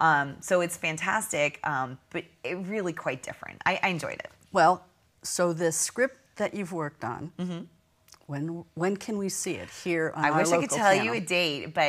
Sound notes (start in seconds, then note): 7.6 sound of agreement